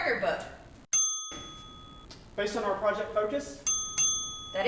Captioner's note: ding Ding